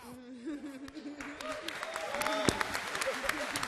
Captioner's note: applause